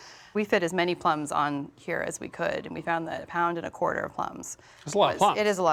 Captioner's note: none